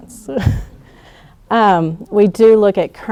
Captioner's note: laughing